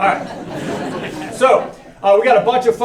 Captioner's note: laughter